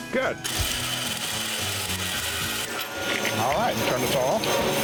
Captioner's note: grinding, cutting sound